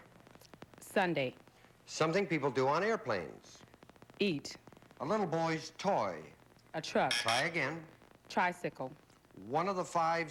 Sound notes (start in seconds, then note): 7.1 buzz buzz